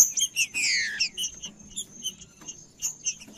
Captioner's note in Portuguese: trinca ferro cantando